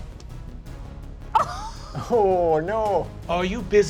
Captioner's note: laughing